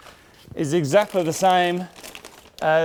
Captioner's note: plastic rustling